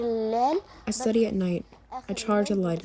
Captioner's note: through translator